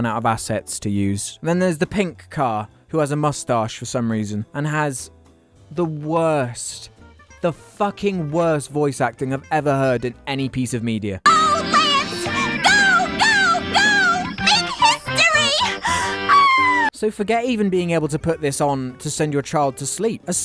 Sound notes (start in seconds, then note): 11.3 incredibly irritating high-pitched bible-belt accent; 15.8 orgasm sound